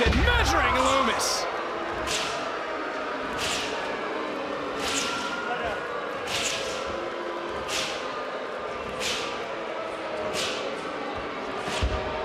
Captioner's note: crowd booing